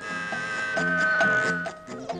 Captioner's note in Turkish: Kapı zili